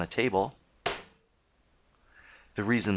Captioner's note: slap